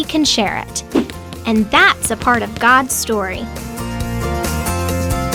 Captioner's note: boxing thuds